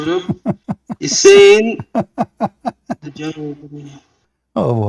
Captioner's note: Ketawa